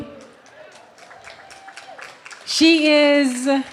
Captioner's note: clapping